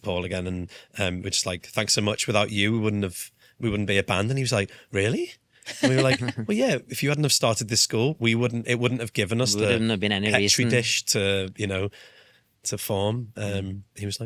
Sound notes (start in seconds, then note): 5.7 laughs